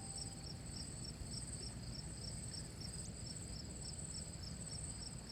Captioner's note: insects chirping